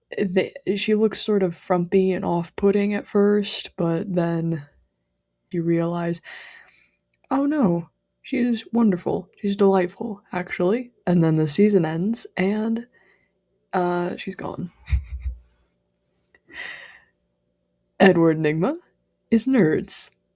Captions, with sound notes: they- she looks sort of frumpy and offputting at first, but then... you realize, "oh, no, she's wonderful! she's delightful, actually!" and then the season ends and, uh... she's gone. [laughs quietly] [inhales] Edward Nygma... is Nerds.